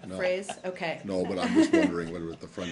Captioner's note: laughter